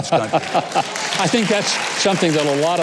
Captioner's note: laughing